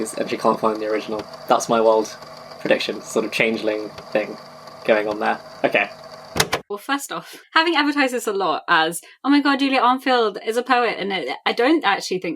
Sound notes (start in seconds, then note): 5.3 tape recorder clicks off